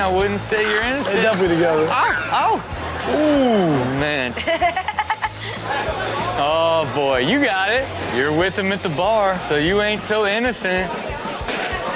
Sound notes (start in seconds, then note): 4.3 Chanel laughs